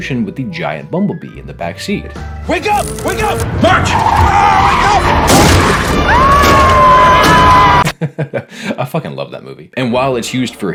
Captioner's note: screams